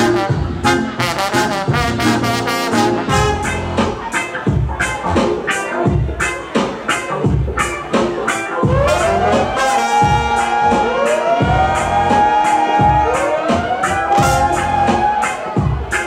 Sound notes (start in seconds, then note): 0.1 interlude continues; 3.5 reggae music continues; 8.7 siren effect blares